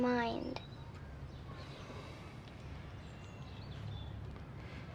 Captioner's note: birds chirping